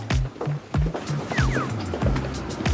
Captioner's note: whoosh